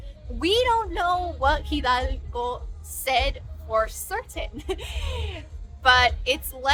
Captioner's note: laughs